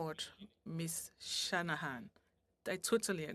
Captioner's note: speaking French